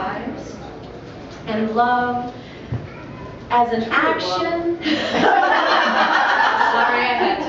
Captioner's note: laughter